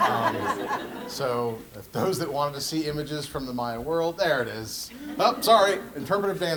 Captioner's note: laugh